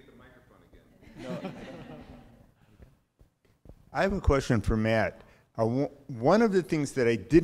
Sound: laugh

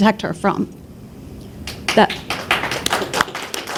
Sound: applause

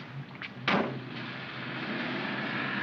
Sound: bids farewell in German; cab door closes; cab accelerates away

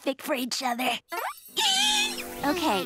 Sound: squealing

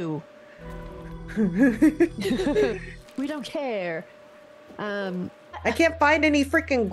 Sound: laugh

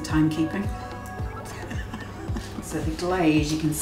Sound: laughs

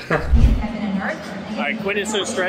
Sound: announcement playing

